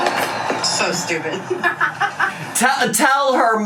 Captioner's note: laughs